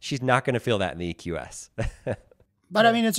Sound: laughs

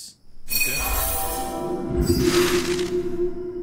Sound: twinkling whooshing

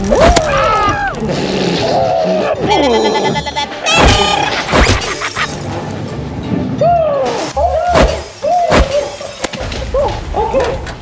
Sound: clowns making sounds

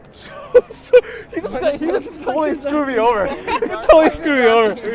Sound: laughs

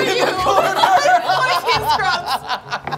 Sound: laughing

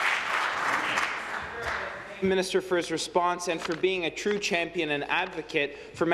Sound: applause

